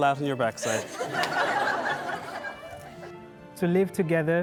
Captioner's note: guests laughing